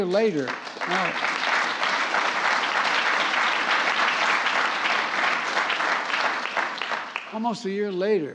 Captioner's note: applause